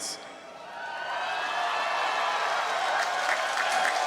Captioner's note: cheering